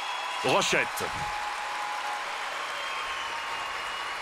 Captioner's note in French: acclamations